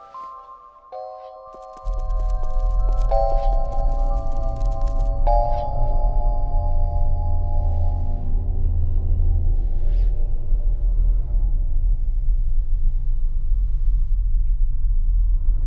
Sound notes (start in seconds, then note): 1.1 footsteps; 5.1 intense music